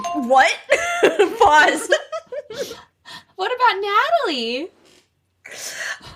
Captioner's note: bingbong